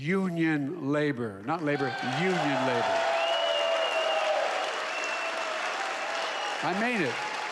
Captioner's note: applause